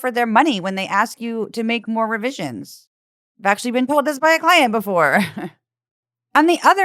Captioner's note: laugh